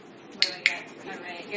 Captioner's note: tagulator clicking